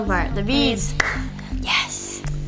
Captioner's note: claps